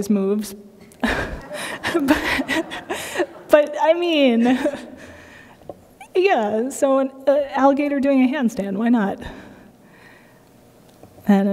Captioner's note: laughter